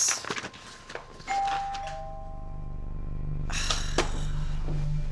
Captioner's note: doorbell ringing; Kate sighs over tense electronic music